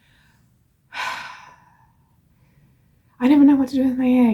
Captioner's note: exhales